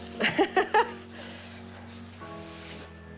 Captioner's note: laughing; orchestral music